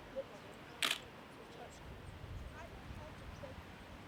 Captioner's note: lens snapping